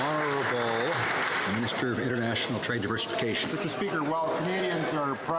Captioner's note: some Applause